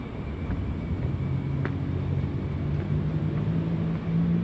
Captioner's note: distant truck sounds